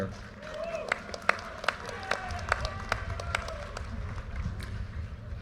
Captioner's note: audience applauding